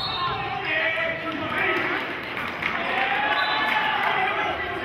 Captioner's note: applauding and whistling